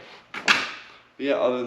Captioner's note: pieces thumping